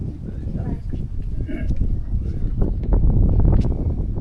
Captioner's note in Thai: ลมพัด